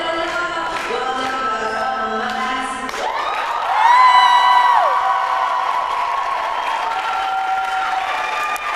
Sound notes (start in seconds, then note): 2.2 applause